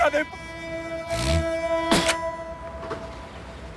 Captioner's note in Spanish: Sonido al escupir